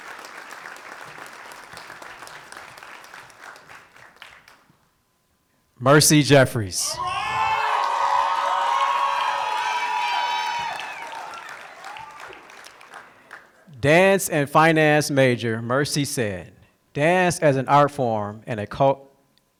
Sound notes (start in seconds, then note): 7.4 applause